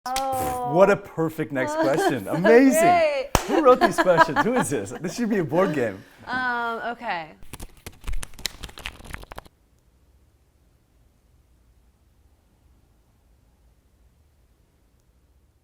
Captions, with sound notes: - Oh! (puffs out air) - What a perfect next question. Amazing! - (laughing) It's so great. - Who wrote these questions, who is this? This should be a board game. - Okay. (cards tapping)